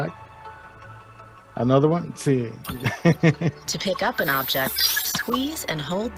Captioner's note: laughter